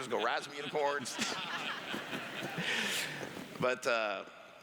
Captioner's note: laughs